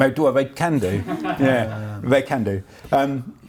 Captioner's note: laughs